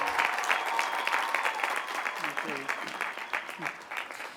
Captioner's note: applause